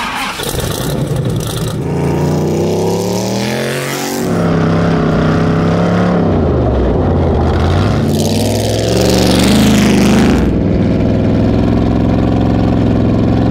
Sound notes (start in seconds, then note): 0.1 engine revs; 2.9 car speeding